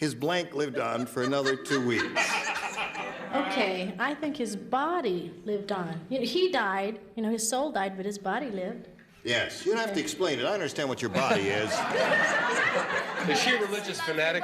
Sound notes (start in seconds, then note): 9.0 laughter